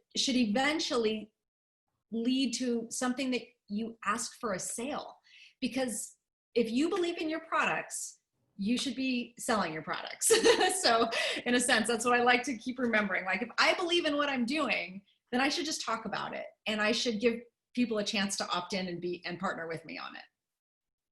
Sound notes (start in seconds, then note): 10.3 laughter